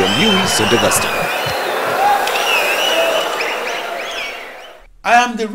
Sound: wild applause and cheering for 22 seconds

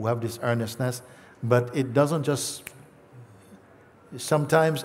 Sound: clicks his fingers

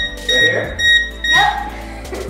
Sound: scanner beeps

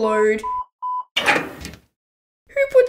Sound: clunk!

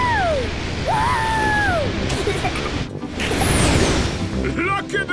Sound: rocket thrusting

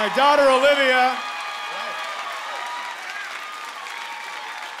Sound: cheering continues

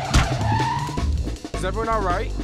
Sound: van screeches to a stop; door slams

